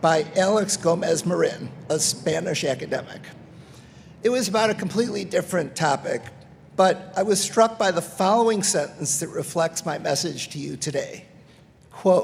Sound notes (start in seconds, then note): none